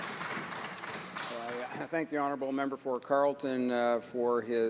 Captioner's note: some Applause